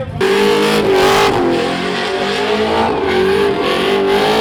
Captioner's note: car engine roaring